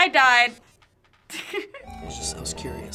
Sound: giggling

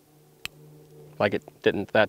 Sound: gun clicks

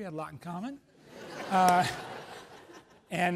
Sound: laughs

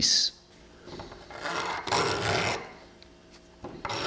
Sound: scraping

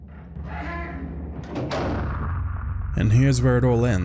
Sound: heavy door creaking and slamming

